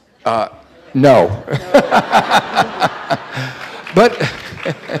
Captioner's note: laughs